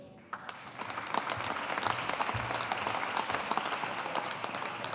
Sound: audience applauding

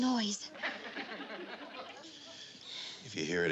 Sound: audience laughs

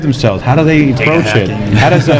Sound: laughs

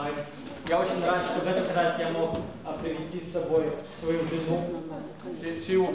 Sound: non-english speech

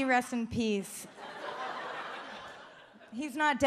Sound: audience laughs

